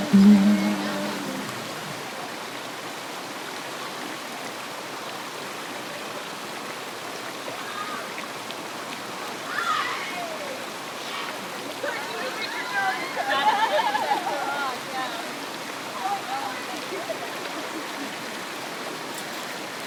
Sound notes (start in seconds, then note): 13.1 laughs